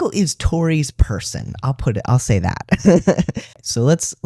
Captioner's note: laugh